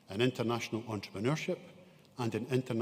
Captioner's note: none